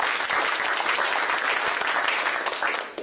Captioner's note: applause